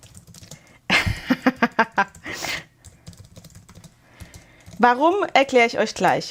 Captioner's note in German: gelächter